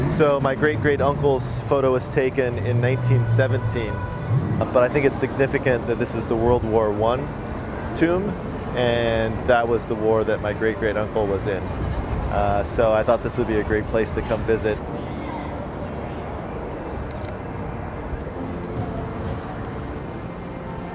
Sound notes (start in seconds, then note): 17.0 camera clicking